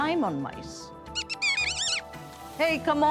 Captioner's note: squeaking